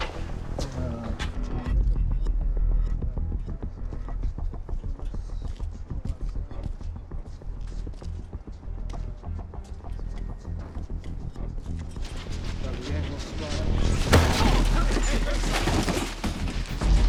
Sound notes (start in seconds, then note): 1.2 distant chatter; 12.0 clatter